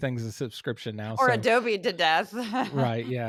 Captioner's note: laugh